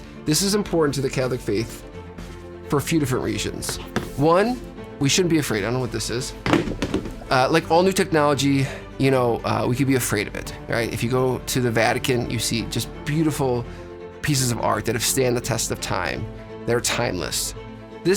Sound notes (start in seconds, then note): 6.4 dull clattering